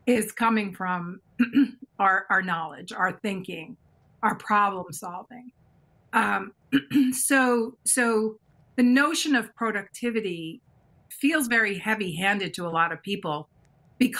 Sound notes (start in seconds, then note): 6.8 clears throat